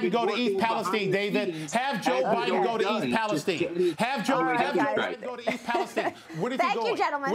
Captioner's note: laughter